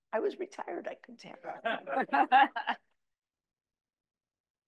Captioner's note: audience laughing